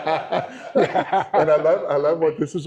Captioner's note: laughter